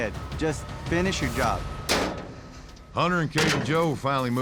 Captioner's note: gate clanks shut